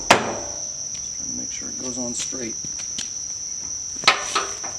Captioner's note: bong